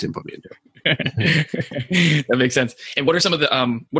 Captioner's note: laughing